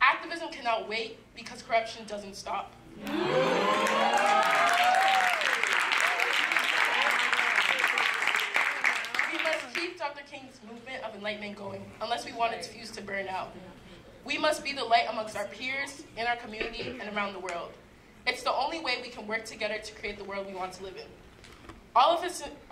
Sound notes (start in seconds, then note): 3.6 applause